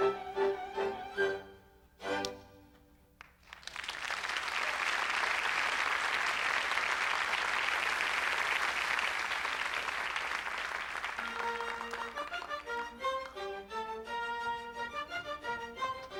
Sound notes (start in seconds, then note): 3.2 applause